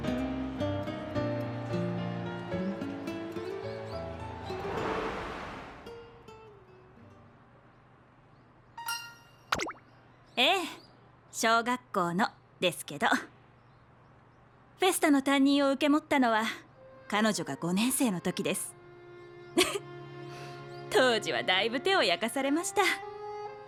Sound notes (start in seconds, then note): 16.8 laughs